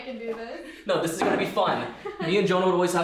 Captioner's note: giggling